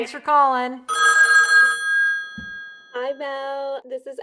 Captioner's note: phone rings